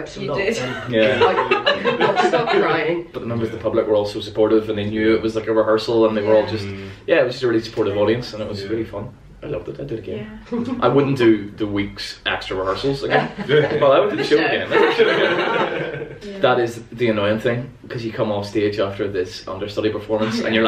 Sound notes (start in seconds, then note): 15.6 laughter